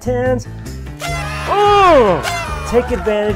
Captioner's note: party blowers tooting